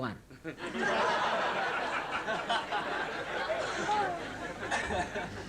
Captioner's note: laughter